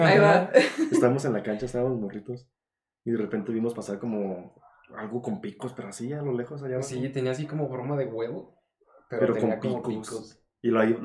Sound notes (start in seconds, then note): 0.9 laughing in agreement